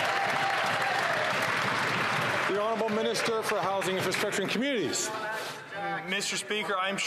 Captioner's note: some Applause